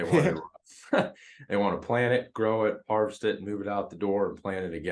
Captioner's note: laugh